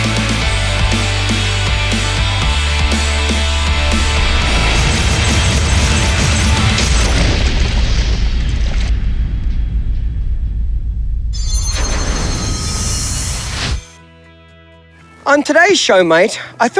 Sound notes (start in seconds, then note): 4.8 crashing; 13.9 bright music